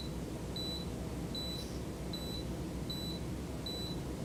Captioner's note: machine beeps; machine beeps